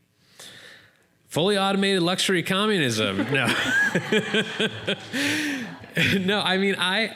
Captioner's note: laughter